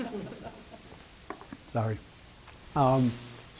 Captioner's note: laughter